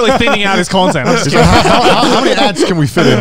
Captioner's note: laughs